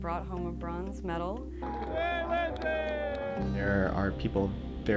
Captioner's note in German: Jubel